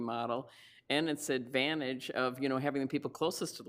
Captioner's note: none